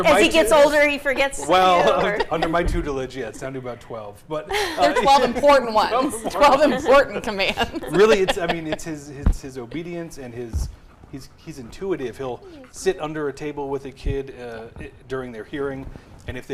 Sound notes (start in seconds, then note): 4.4 group laughing; 7.5 laughs; 11.4 dog panting